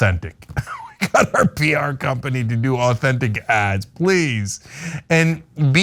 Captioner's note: laugh